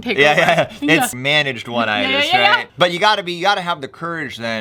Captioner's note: chuckles